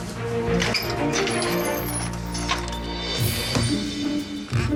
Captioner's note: door squeaks open